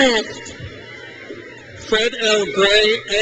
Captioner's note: crowd cheers